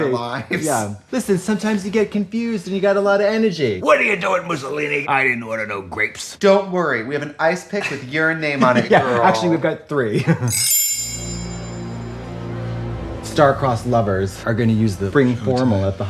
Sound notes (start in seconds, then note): 10.4 chimes tinkle; 10.6 somber music